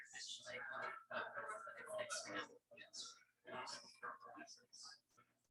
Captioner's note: people chattering indistinctly